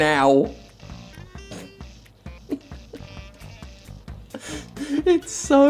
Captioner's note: stifled laughter